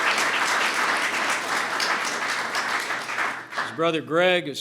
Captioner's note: applause